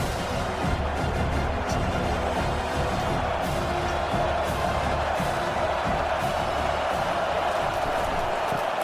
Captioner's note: crowd Noises